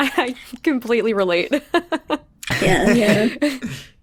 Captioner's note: laughs